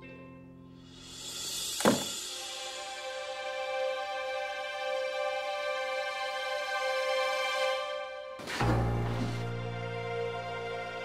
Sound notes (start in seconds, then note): 1.8 door closing; 8.4 lift opening